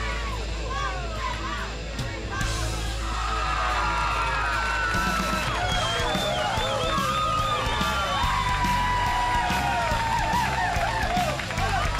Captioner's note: crowd cheering